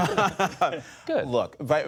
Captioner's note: laughter